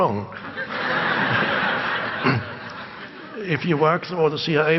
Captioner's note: audience laugh